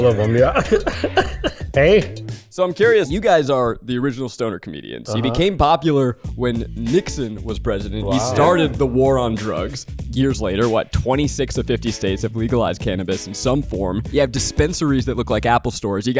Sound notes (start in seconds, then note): 0.0 Cheech and Chong laugh